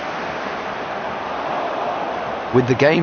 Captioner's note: crowd groaning